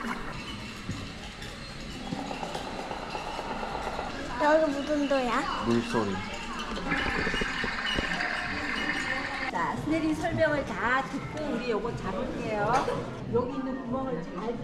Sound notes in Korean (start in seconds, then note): 1.9 통통배 소리; 6.8 수원천 발원지 물소리